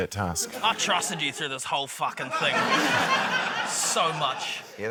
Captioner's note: laughter